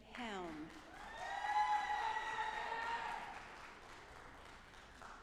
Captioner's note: audience applauding